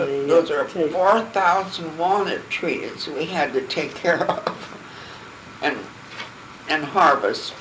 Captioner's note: laughing